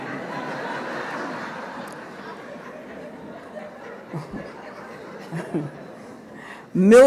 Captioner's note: laughter